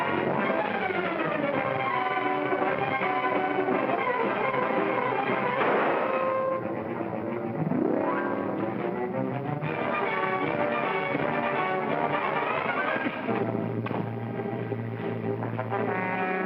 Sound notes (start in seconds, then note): 0.0 suspenseful music; 5.4 gunshot; 7.5 suspenseful music; 13.8 pop & thump; 15.8 suspenseful music